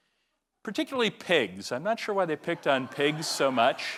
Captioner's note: laugh